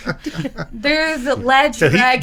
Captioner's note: laughing